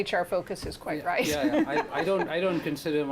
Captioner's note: laughter